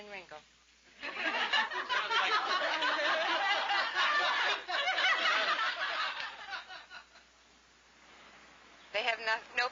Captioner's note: laughter